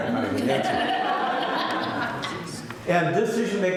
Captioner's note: laughter